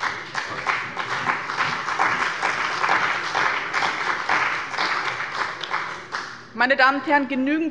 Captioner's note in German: Beifall bei dem BÜNDNIS 90/DIE GRÜNEN und der CDU